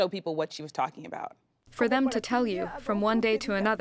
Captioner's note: through translator